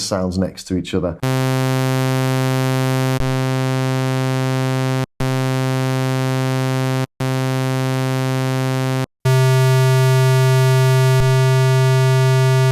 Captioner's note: osc sounds